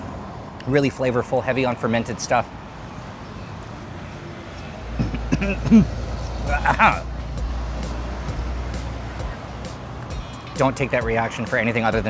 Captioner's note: coughing